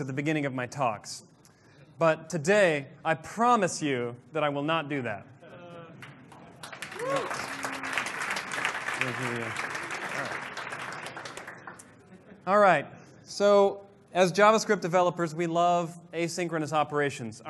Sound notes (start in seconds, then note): 6.0 applause